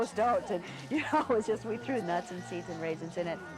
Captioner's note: chuckling